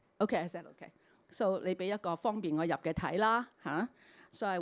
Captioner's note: Cantonese